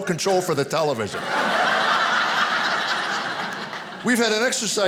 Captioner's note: audience laughing